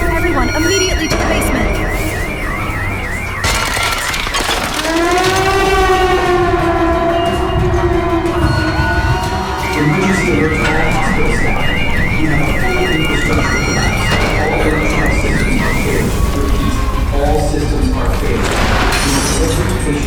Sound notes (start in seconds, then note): 3.3 glass shattering; 4.9 emergency siren wailing; 9.7 distorted announcement; 19.4 distorted announcement